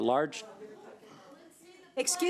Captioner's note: overlapping chattering